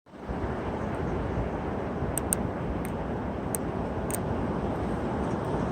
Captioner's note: wind Howling